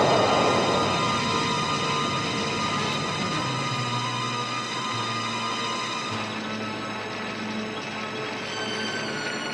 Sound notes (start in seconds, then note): 5.2 fire crackling